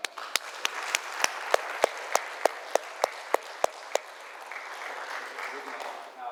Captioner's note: applause